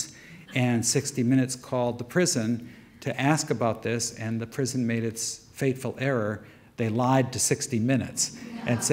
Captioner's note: audience murmur